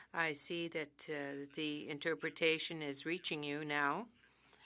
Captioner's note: speaking French